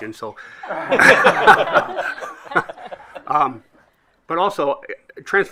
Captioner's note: group laughing